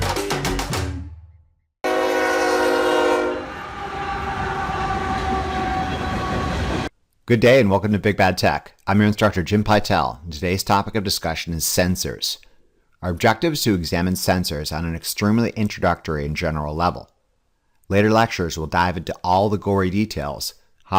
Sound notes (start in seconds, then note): 1.8 train hooting; 3.8 train engine roaring